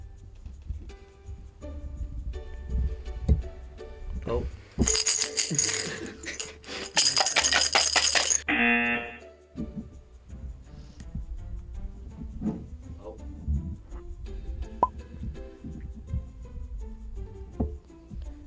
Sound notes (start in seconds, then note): 4.8 coins rattling; 4.8 jar thumps; 5.4 laughs; 8.5 buzzer rings